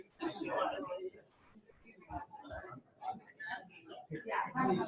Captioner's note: people chattering